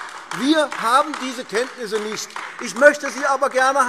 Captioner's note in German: Beifall AfD